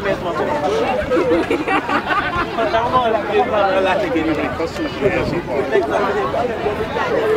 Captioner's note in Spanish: La risa